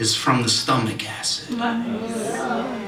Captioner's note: audience Reaction